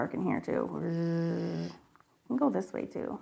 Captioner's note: making buzzing noise